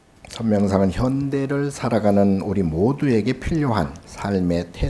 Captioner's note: speaking Korean